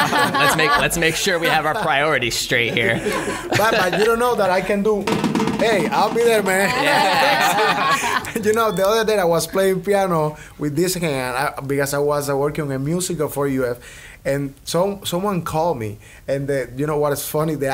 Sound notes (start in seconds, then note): 5.2 plays drums; 6.3 laughs